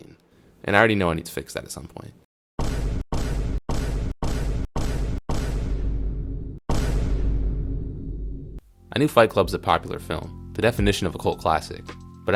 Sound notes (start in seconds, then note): 2.6 vine boom.mp3